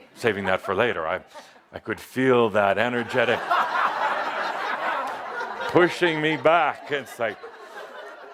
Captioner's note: laughter